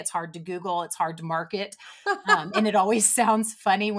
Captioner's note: laughs